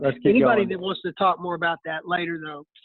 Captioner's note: laughing